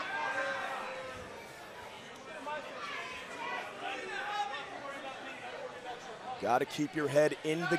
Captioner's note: crowd chatter